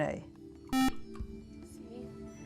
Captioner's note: beeping